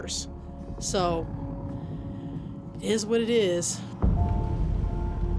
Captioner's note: sighs